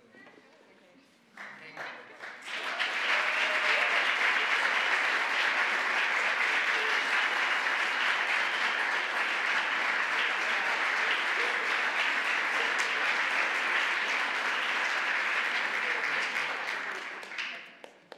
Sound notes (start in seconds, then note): 3.1 applause